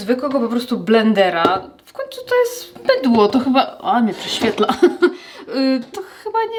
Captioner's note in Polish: śmiech